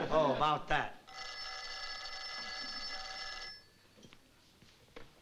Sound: phone rings

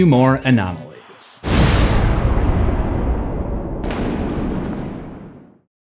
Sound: thunder rattling

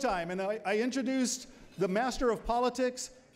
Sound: none

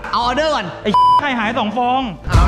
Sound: pat

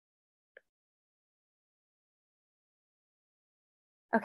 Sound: silence

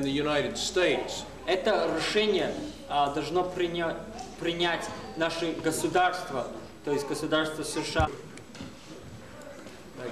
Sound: non-english speech

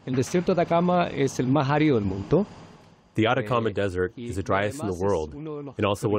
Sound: through translator

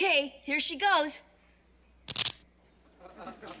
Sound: crackles

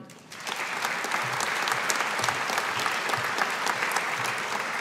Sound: audience applauding

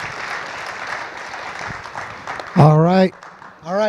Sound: audience applauds

